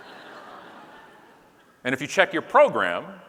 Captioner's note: audience laughing